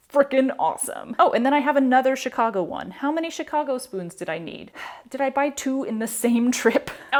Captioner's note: sigh